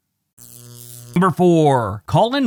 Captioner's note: static crackling